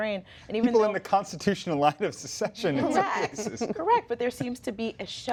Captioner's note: laughter